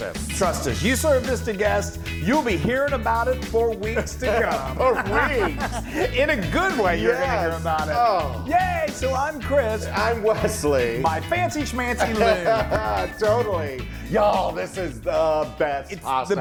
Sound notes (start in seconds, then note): 3.8 laugh